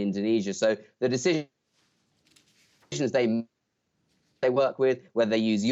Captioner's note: audio gap